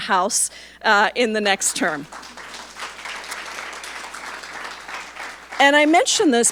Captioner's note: audience applauding